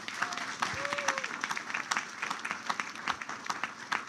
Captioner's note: applause